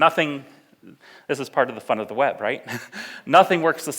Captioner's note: laughs